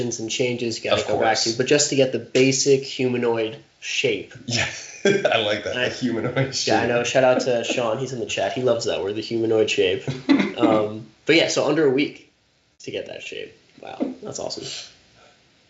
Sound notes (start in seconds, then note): 4.4 chuckling